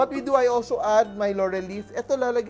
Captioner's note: sizzle